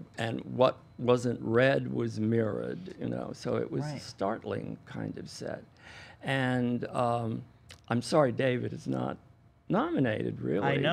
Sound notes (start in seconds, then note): none